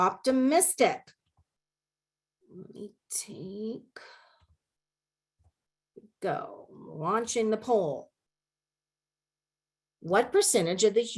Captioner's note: silence